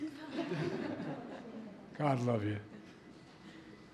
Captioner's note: laughter